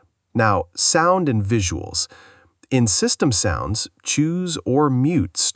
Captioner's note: system Sounds